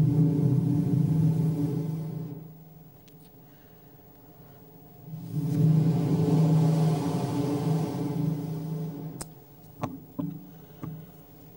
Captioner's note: Shri Mataji blows into the microphone seven times